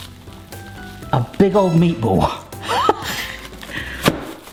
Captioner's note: laughs